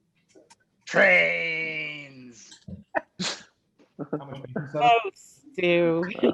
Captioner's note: laughs